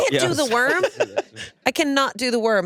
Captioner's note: laughs